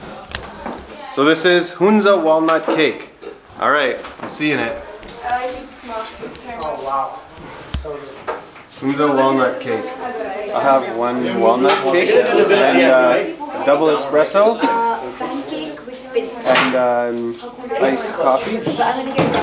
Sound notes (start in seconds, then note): 15.4 speaking in foreign language; 19.2 dishes clanging; 19.2 people chattering